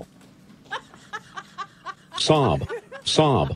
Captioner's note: audience snickering